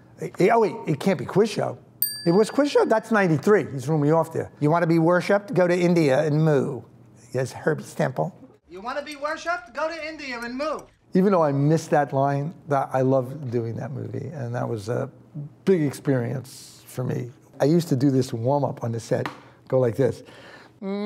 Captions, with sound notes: Yeah wait, it can't be "Quiz Show"? (bell dings) It was "Quiz Show"? That's '93. You threw me off there. "You wanna be worshiped? Go to India and moo." That's Herb Stempel. - You wanna be worshiped? Go to India and moo. - Even though I missed that line, I loved doing that movie, and that was a big experience for me. I used to do this warmup on the set. Go like this.